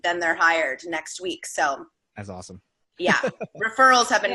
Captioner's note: laughing